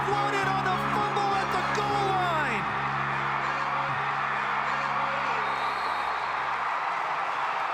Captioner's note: cheering